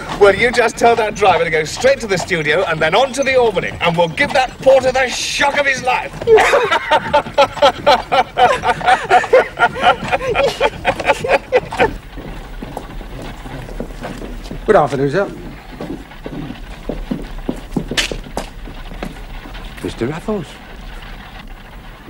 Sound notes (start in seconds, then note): 6.2 Raffles laughing